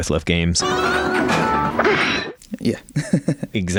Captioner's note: video game sounds